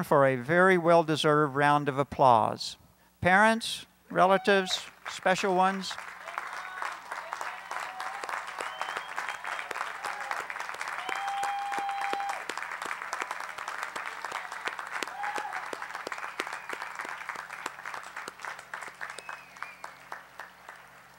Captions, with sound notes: stand for a very well deserved round of applause. Parents, relatives, special ones. [Applause]